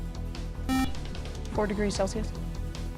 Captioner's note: buzzer